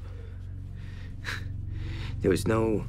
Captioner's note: scoffs